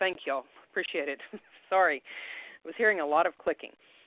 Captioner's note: chuckles